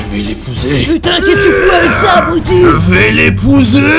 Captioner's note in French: voix intérieure; Effort physique